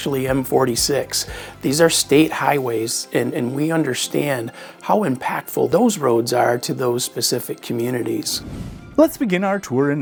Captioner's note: swoosh SFX